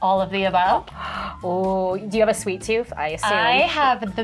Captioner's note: gasps